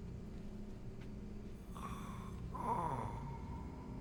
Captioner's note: snoring